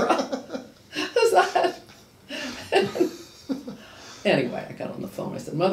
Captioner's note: laughing